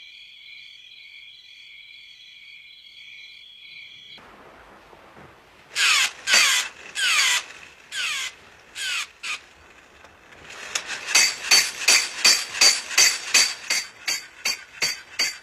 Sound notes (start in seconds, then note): 6.1 toy monkey creaking; 10.5 cymbals crashing